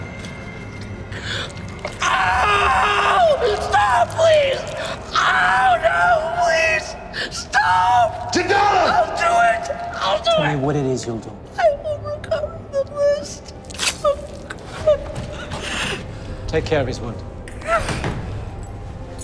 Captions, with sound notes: Ow! Stop please! Oh, no, please. Stop! [man shouts] I'll do it! I'll do it. Tell me what it is you'll do. I will recover the list. [sobbing] Take care of his wound.